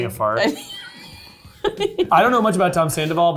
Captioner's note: laughing